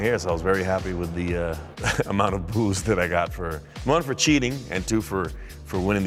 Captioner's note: laugh